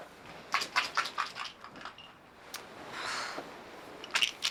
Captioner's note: pills rattling